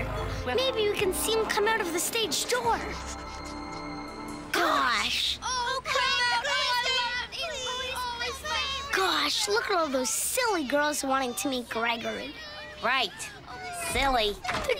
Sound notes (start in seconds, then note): 5.3 excited crowd